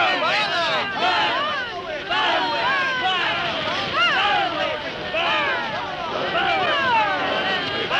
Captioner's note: crowds chants